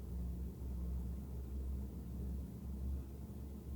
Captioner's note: none